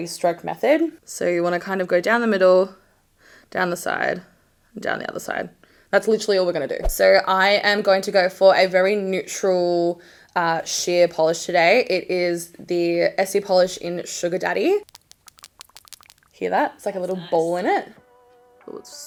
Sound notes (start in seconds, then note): 14.8 ball clatters